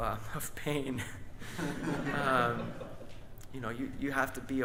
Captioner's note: audience laughs; band laughs